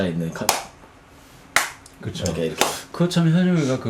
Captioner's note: clap